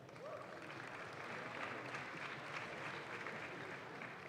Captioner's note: audience claps